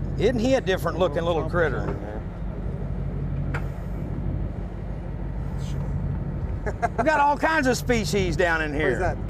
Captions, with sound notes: It's he a different-looking little critter [Laughter] got all kinds of species down in here